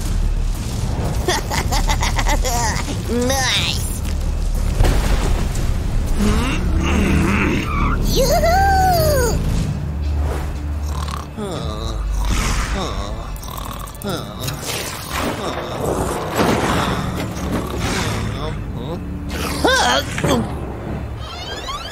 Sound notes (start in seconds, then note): 1.2 giggling; 6.2 grunting; 10.8 snoring